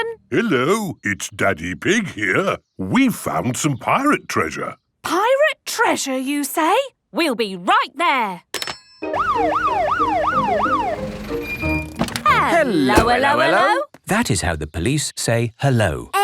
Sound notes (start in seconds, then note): 9.1 siren sounding